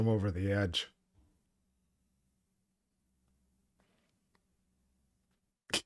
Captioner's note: silence